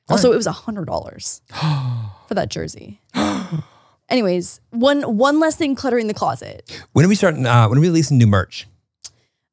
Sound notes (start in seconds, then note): 3.2 gasps